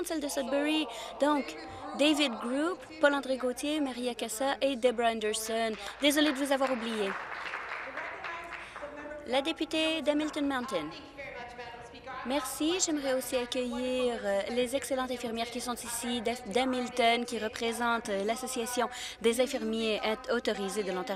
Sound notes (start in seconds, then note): 6.1 speaking in French